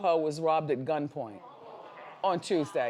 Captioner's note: audience groans